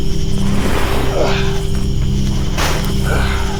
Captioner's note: body sliding